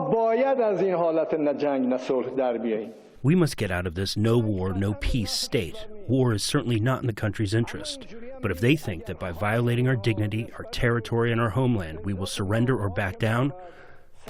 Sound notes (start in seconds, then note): 3.9 through translator